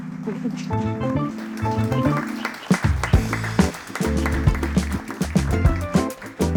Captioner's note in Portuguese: Aplausos